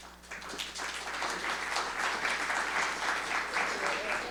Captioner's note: audience applauding